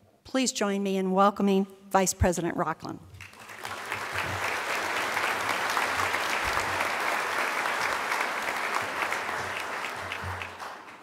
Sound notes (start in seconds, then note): 3.2 applause